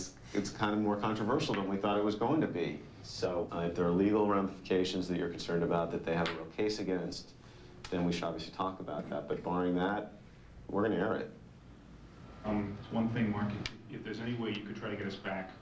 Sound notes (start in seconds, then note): none